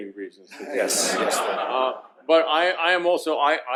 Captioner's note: laughter